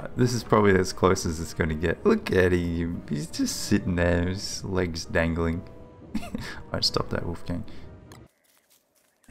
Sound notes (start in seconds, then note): 6.1 chuckles